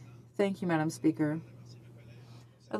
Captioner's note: speaking French